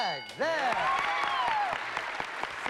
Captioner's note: applause